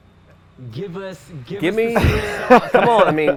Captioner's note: laughs